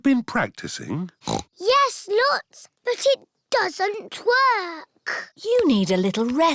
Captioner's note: snorts